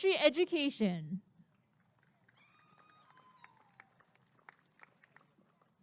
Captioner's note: applause and cheering